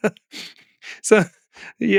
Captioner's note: laughing